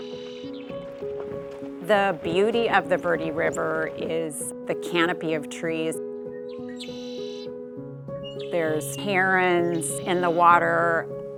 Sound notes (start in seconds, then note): 0.0 birds continue chirping